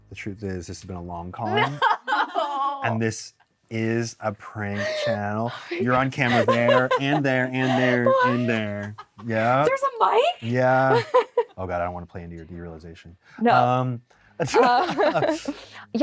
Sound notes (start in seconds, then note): 10.2 laughs; 14.5 both laugh